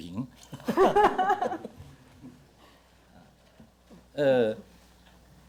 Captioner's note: audience laughter